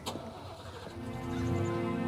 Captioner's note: car engine revving; gentle somber music